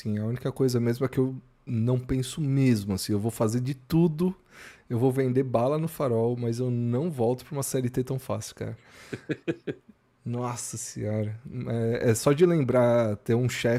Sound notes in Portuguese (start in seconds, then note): 9.1 risadas